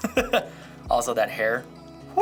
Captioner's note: laughing